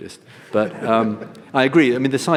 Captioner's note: audience laughs